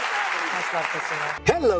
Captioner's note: applause